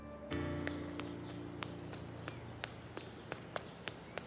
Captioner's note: birds tweeting